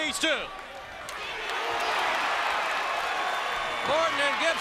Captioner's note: crowd cheering